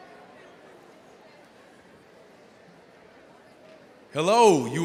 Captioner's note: overlapping chatter